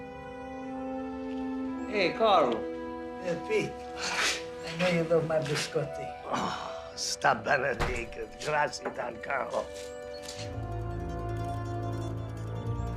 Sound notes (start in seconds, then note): 7.0 Italian spoken audio